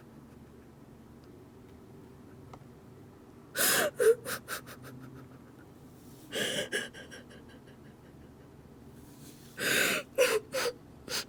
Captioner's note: sobs